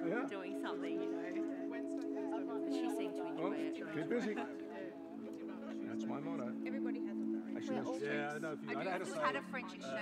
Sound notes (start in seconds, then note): 1.9 people chattering